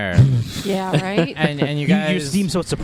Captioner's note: chuckles